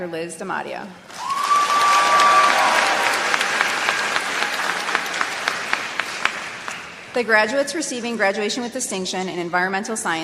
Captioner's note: applause